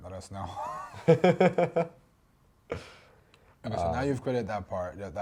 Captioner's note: laughing; chuckles